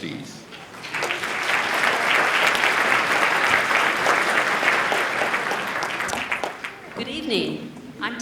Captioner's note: applause